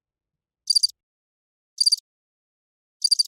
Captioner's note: crickets chirping